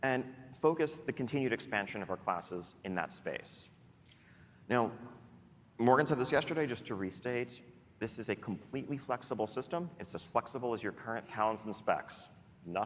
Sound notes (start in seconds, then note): none